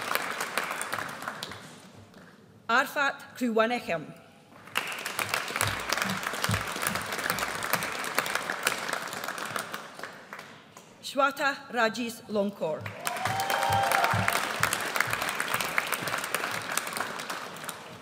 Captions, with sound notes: Arphapat Khruewanichtham. (AUDIENCE APPLAUDS) Shweta Rajesh Lonkar. (AUDIENCE CHEERS)